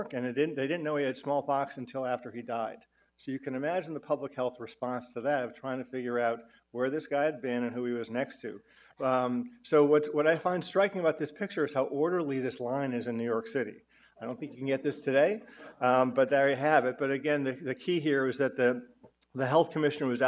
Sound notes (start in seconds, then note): none